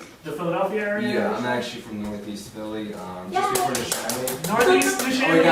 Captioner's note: audience member clapping